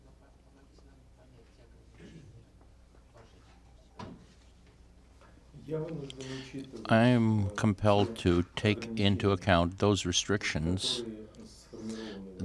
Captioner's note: through translator